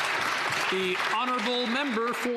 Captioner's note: applause